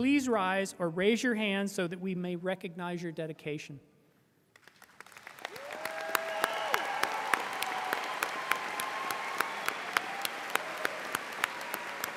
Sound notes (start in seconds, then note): 4.6 audience applauding and cheering